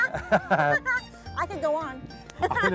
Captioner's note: laughter